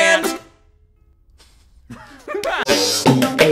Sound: laugh

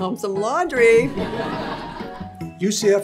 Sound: audience laughs

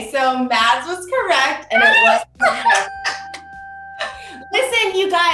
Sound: bell dings

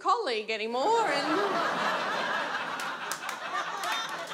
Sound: audience laughs

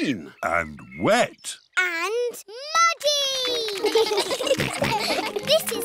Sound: children giggle

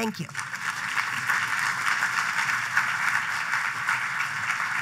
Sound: applause

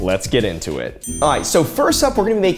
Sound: screen pings

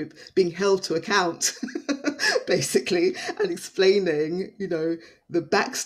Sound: laughs

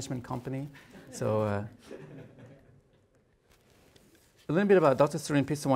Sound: audience chuckles

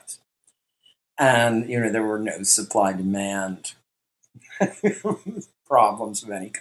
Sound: laughs

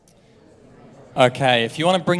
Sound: audience chattering

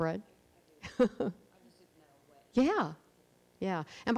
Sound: murmurs

